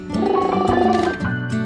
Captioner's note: dog toy squeaks; gentle music; purring